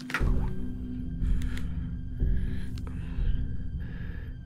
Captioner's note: breathing heavily; phone clicking